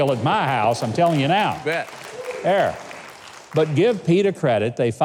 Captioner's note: audience applauding